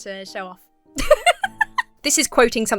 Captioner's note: laughs